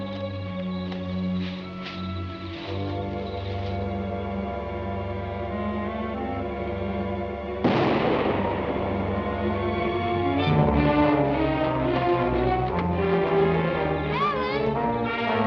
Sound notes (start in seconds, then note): 7.6 gun fires; 10.7 suspenseful orchestral music